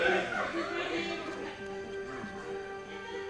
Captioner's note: indistinct chatter, laughter